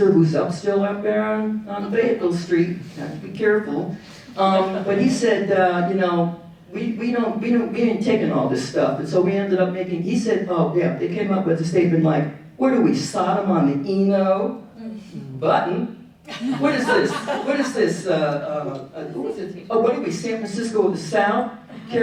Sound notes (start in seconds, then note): 16.3 audience laughing